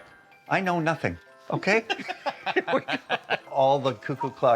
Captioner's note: laugh